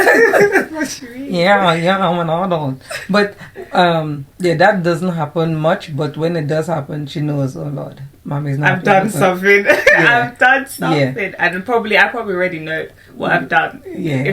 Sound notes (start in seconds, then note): 0.0 laughter; 9.5 laughs